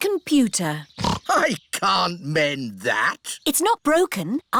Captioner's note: snorts